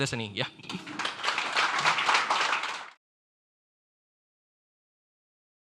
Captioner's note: audience applauding